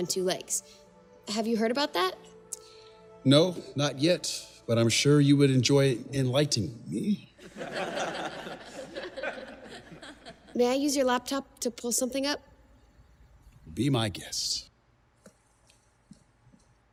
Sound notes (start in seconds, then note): 7.4 risadas da plateia